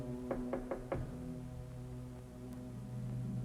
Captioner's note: knocking on door